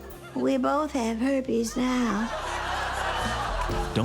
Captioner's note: studio audience laughs